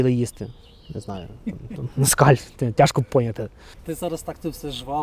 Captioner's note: laughter